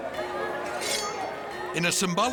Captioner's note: sword snicks